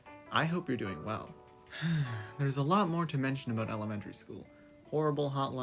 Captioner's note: sigh